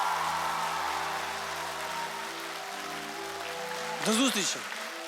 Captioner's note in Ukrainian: оплески